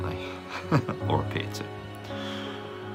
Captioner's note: laughs